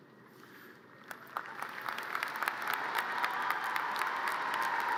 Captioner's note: audience cheers and applause